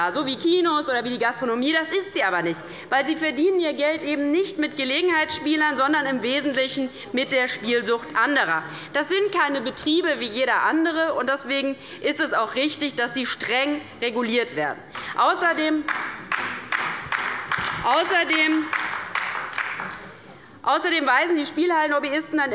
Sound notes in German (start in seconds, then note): 15.8 Beifall bei der LINKEN